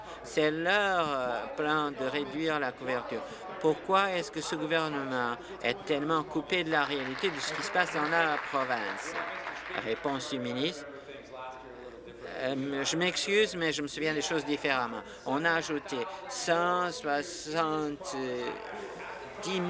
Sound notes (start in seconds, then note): 10.2 applause